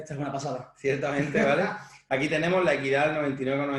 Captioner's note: laughs